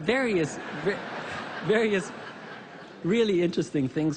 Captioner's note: laughter